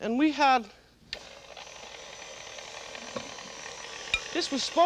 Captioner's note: whirring